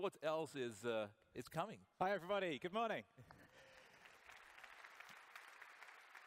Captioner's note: applause